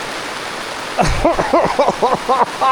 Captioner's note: laughing